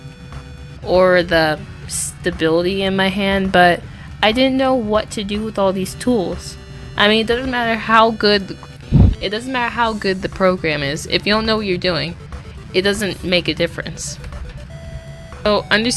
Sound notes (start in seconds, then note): 8.0 phone mic